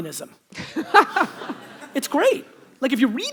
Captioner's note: audience laughter